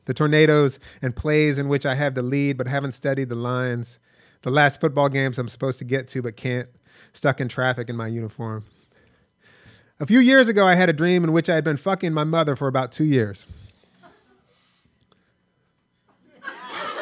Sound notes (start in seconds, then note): 13.9 delayed laughter